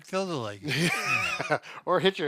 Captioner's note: laughs